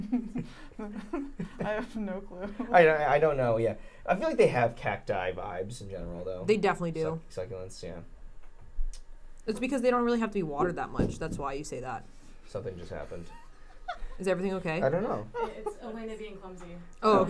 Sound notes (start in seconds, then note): 0.0 giggles; 10.5 metal thuds; 13.8 chuckling